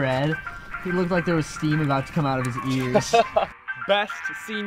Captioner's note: laugh